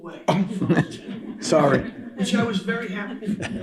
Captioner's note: laughter